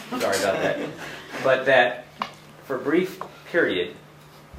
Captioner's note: laughter